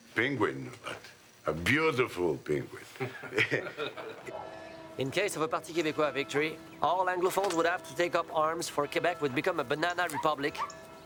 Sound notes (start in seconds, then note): 3.0 all chuckle